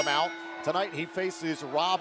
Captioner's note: bell ringing